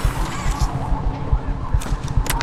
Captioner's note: connected noise distorted